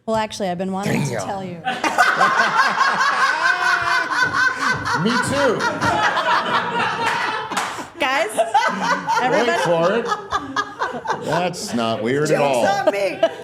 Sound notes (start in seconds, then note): 2.1 all laughing